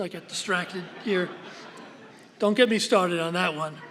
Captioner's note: laughter